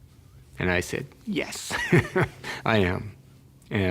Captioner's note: laughs